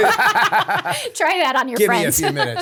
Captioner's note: laughter